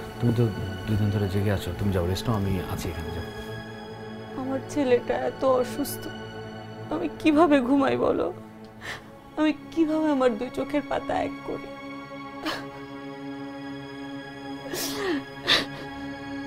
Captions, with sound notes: You haven't slept for 2 days. Go rest. I'll be here. Go. My son is so sick. How can I just sleep? How can I even close my eyes? [crying]